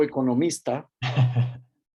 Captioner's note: ríe